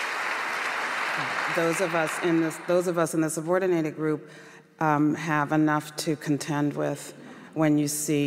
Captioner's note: applause